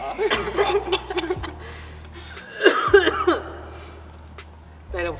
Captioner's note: wheezes